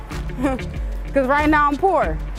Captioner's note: chuckle